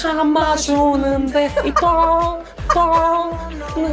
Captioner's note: laughs